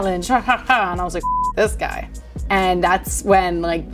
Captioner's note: beep